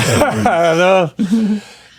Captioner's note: laughing